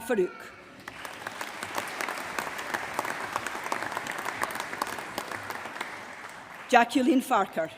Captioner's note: applause